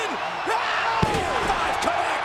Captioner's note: Tazz screams